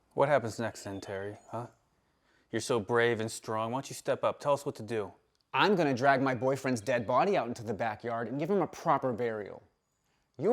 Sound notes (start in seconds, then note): none